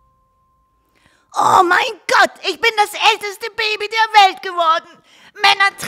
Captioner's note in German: krächzend